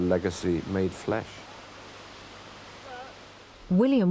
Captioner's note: water rushing